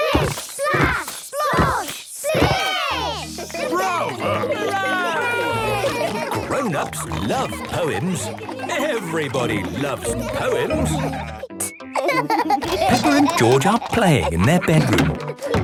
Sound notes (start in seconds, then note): 3.4 cheering, applauding; 11.5 laughing